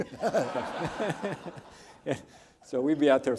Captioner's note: audience laughs